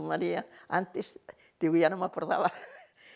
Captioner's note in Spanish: ríe